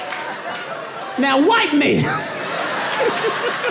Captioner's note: laughs